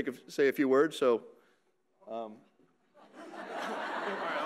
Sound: audience laughing

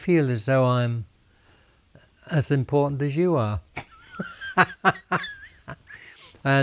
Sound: laughs

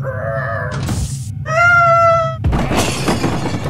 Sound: screaming; crash

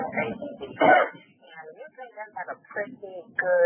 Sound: coughing

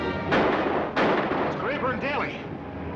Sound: gun firing

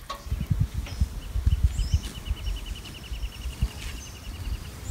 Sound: birds singing

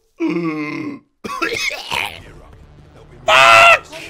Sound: Coughs like a L4D Smoker

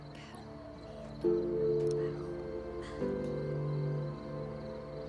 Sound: whispering in Somali

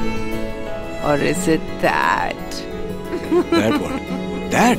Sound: laughing

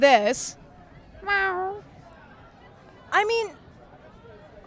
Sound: meowing

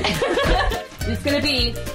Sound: laughing

